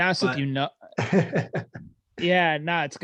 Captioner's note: laughing